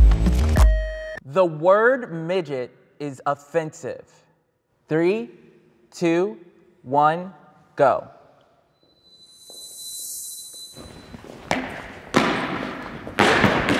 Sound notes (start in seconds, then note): 8.9 shoes tap